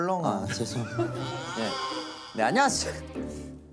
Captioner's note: awkward chuckle…